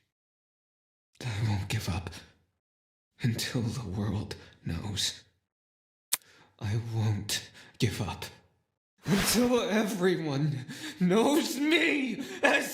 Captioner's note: kaboom